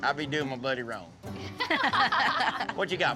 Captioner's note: laughter